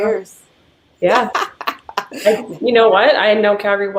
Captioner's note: laughing